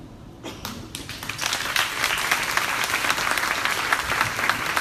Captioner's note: crowd applauding